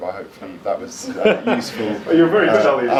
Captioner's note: laughs